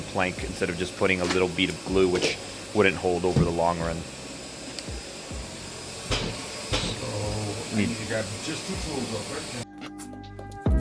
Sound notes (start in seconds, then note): 4.9 vacuuming humming; 6.0 hammer pounding; 8.1 man speaking